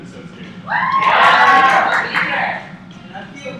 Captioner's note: cheers